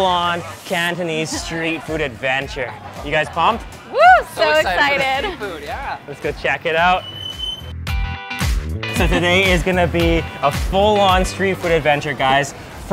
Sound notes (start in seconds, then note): 3.9 cheers; 6.7 funky indie music